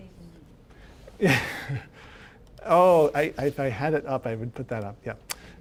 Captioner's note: laughing